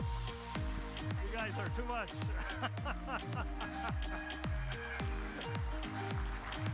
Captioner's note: laughs